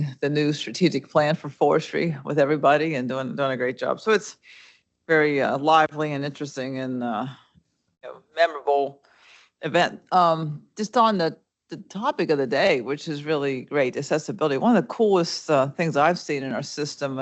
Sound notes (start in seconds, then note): none